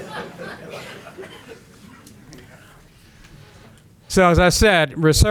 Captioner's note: laughter